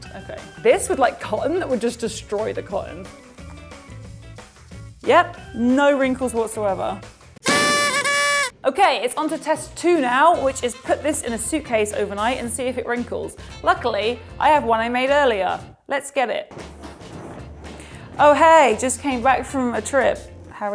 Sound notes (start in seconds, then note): 7.4 confetti popping